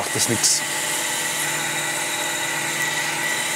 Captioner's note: machine noise